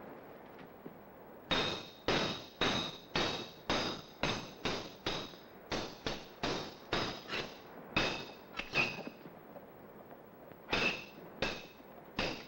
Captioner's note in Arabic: صوت السيوف